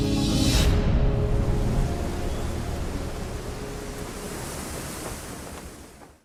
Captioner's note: waves lightly crashing